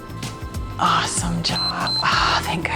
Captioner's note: timer beeps